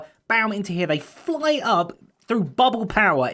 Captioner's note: none